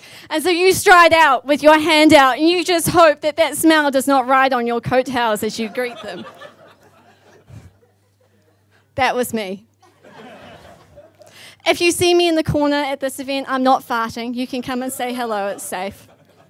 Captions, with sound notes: and so you stride out with your hand out and you just hope that that smell does not ride on your coattails as you greet them. (audience laughs) That was me. (audience laughs) If you see me in the corner at this event, I'm not farting, you can come and say hello, it's safe.